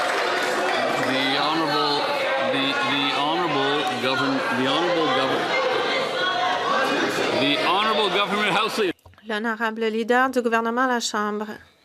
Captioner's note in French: applaudissements